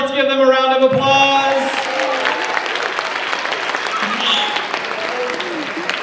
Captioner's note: audience applauds